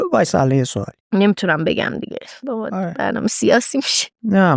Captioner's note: laughs